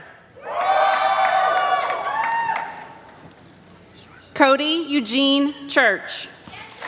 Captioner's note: applause